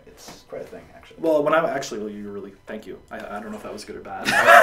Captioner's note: laughs